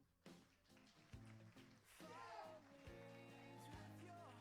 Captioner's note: applauding